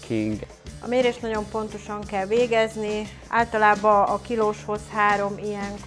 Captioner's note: speaks in Hungarian